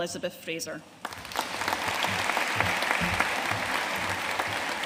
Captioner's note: audience applauding